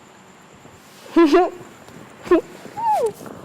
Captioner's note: giggling